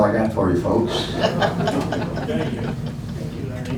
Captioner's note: laughing